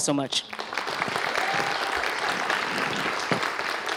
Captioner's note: applause